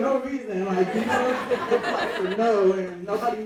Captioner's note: audience laughing